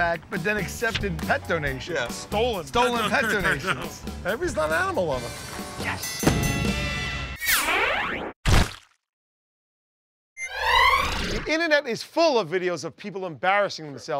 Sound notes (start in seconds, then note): 6.0 ding!